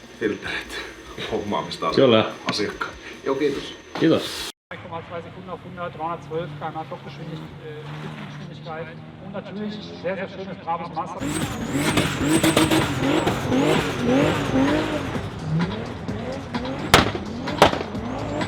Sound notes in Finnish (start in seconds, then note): 4.7 taustapuhetta; 6.8 moottorin ääni